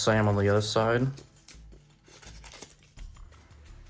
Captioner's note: paper packaging makes noise